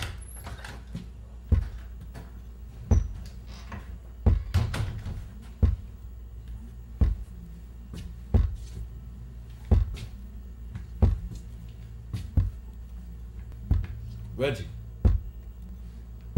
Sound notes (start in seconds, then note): 0.0 door opens; 2.6 thumping sound